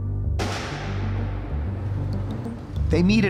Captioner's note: gun shots